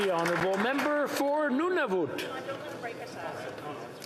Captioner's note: applause